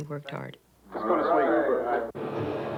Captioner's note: indistinct chatter